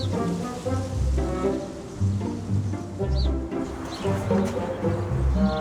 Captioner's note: gentle upbeat music; sprinkler sloshing; gentle upbeat music